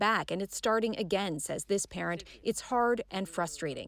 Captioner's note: speaking French